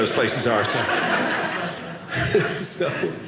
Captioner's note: audience laughing